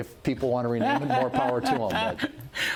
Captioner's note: laughter